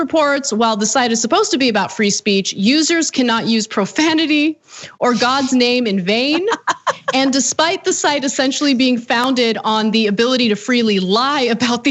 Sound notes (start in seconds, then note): 6.2 laugh